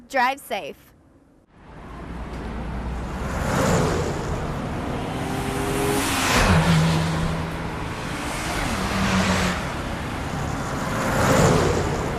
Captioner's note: sounds of cars whooshing